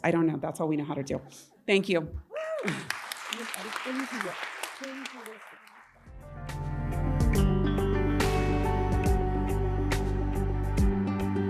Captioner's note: applause